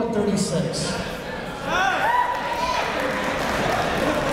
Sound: cheering

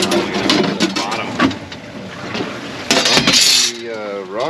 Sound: clanking

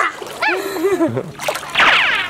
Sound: waves lapping; zooming noise

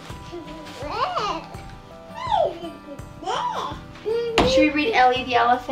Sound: baby gibberish

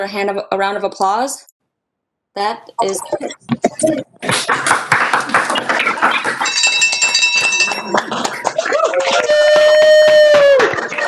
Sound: general applause

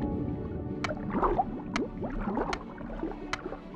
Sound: resumes clicking

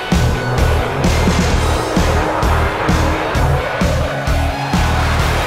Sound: jet engine roaring

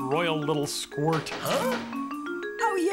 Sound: knocks on door

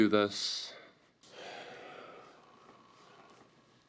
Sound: sighing

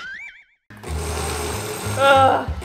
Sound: spring bouncing; blender buzzing

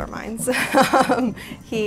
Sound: laughs

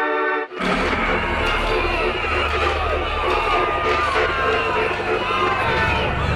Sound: prisoners crying for help simultaneously

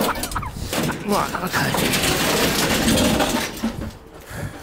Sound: laughs; loud banging

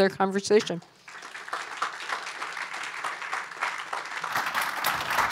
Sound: applause

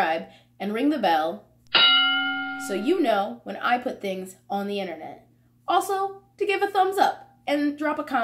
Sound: bell sound

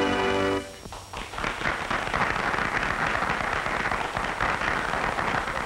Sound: applause

